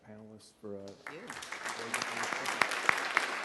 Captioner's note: applause